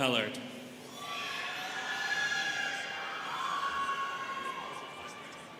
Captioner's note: students cheering